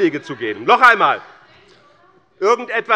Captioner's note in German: Zurufe von der SPD